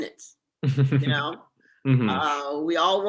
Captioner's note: giggles